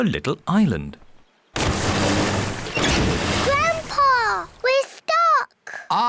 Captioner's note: rumbling